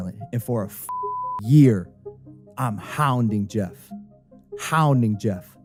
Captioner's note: beeps